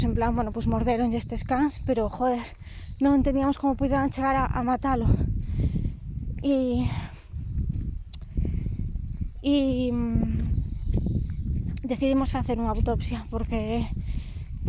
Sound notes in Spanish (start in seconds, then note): 8.1 chasca la lengua